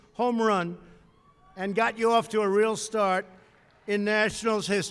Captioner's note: applause